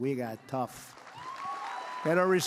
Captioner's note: applause